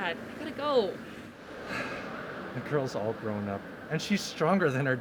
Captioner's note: sigh